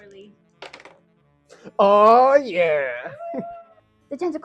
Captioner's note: cheers